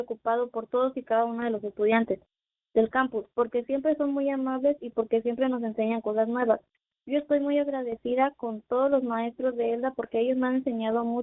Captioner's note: speaking in spanish